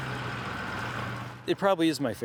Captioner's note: truck driving past